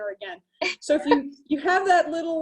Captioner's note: laughing